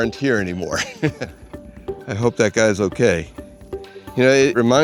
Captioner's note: laughs